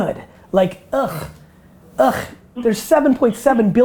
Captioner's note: grunts